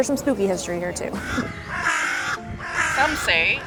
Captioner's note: crows cawing